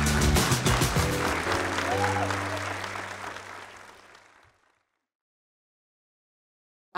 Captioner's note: applause